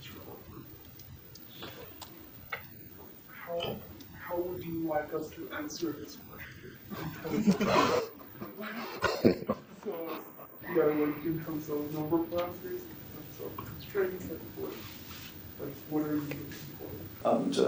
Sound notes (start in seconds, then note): 6.3 laughing